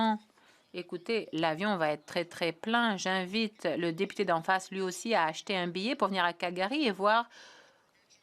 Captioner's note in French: voix de l'interprète